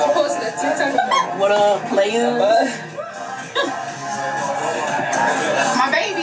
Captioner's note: laughs